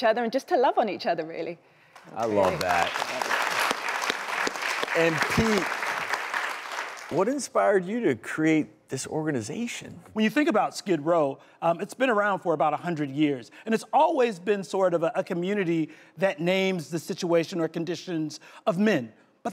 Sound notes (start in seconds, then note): 2.1 audience applause